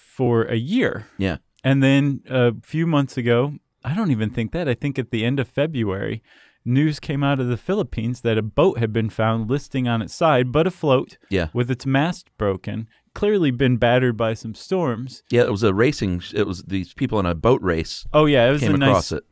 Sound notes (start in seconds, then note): 15.6 voiceover